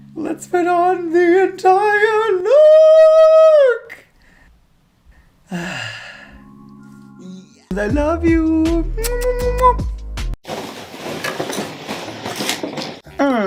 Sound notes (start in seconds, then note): 9.0 kiss noises <3; 13.2 grunting?